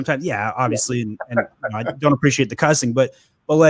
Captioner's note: laughs